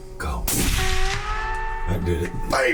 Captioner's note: rifle fires